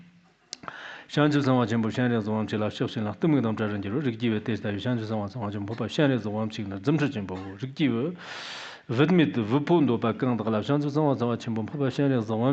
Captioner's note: giving oral transmission in Tibetan